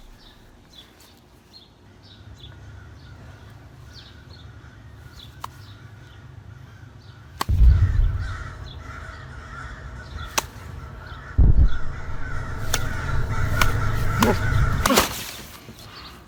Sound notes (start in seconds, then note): 2.3 crows and Explosions, getting louder and louder